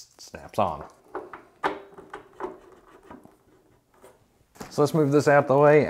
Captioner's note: propane hose rustling